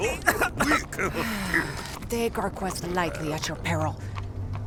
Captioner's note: cough cough; sigh